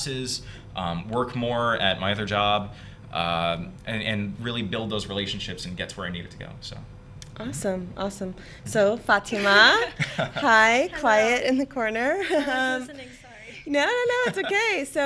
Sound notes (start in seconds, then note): 9.3 laughing